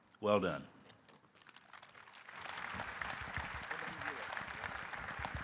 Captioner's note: audience applauding